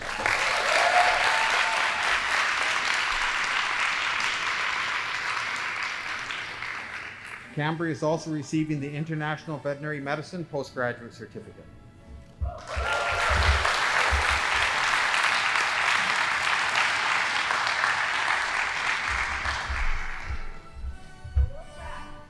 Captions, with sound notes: (audience applauding) Canberra is also receiving the international veterinary medicine postgraduate certificate (audience applauding) (band playing)